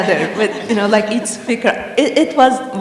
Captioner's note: laughter